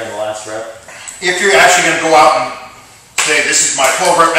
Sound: leg slap!; hand smack!

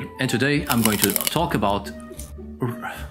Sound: chewing sounds

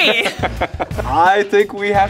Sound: laughing

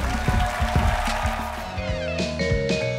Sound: cheering and applause

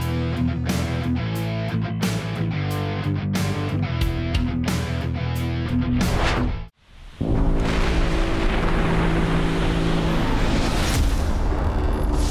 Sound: cheering

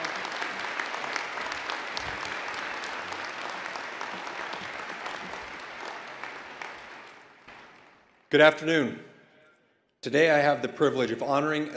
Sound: applause

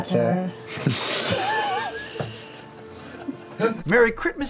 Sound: group laugh

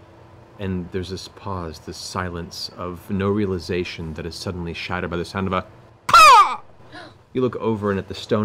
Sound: caws

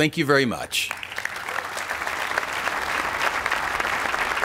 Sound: applause

